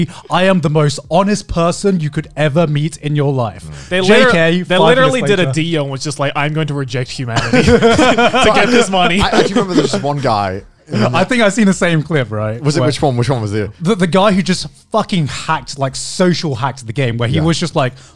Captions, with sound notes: "I am the most honest person you could ever meet "in your life. "JK." - They literally did a Dio and was just like, "I'm going to reject humanity, (everyone laughs) "to get this money." - I remember this one guy- - I think I've seen the same clip. - Which one? Which one was it? - The guy who just fucking hacked, like, social hacked the game where he was just like,